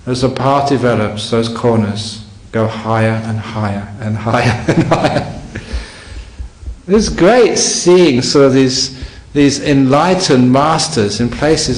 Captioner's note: laughs